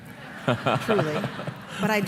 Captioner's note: laughter